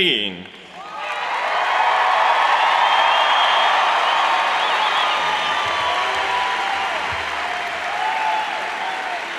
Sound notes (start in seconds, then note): 0.7 cheers and applauds